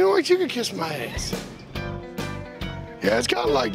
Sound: laughs

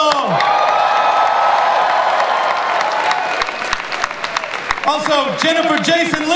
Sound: audience cheering

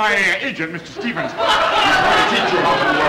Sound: audience laughter

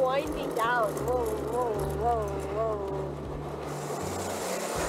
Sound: winding down sounds

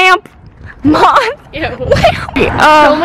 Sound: laughing

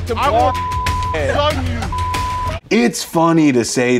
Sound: beeps

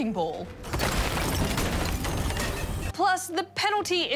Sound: smashing

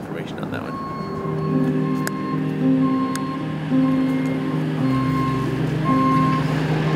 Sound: tow backup whining; tender music

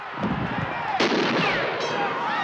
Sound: gunshot

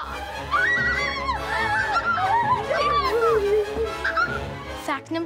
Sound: screams

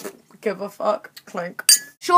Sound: clink

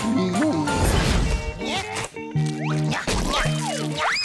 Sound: grunting

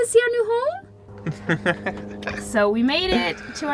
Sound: laughing

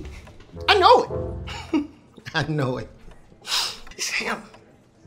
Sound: chuckling

